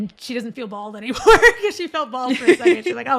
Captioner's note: laughter